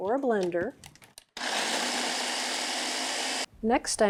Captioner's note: blender whirs